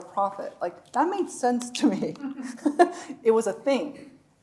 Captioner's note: chuckles